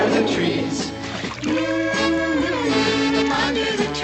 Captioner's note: CHORUS HUMMlNG